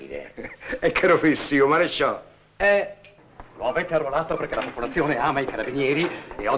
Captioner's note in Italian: sottovoce